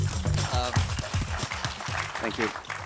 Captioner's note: audience applause